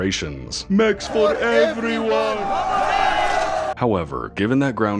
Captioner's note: angry Mob Sounds